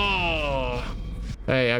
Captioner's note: groans